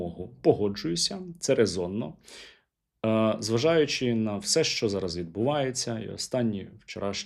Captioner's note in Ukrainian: сопіння